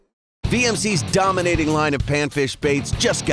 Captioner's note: voiceover